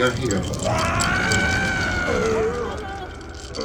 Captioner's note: screaming